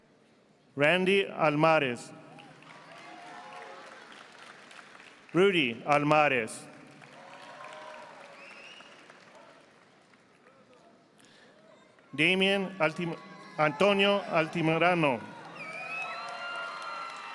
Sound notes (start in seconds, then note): 2.3 audience applauding; 14.7 audience applauding